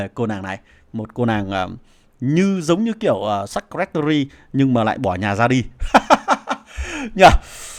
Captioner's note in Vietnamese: tiếng cười